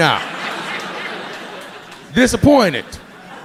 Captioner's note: audience laughing